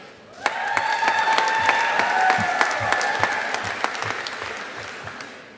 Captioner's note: audience applauding